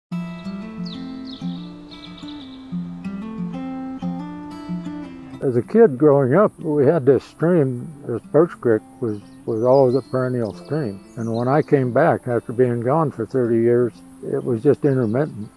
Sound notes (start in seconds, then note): 0.2 birdsong; 0.2 light, acoustic music